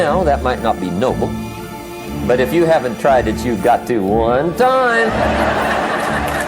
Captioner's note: applause